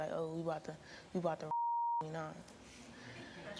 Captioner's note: beep